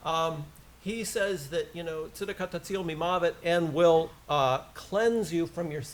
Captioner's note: foreign language